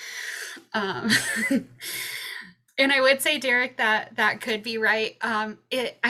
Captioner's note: chuckles